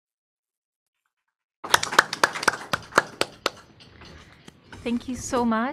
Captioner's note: applause